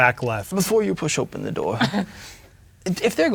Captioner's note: chuckles